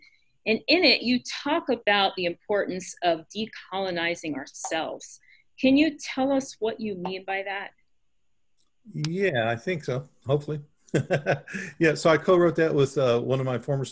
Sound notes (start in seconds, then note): 10.9 chuckle